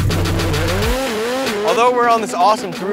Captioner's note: engine revs